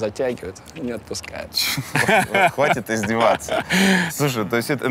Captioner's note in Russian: смеётся